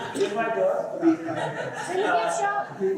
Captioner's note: laughter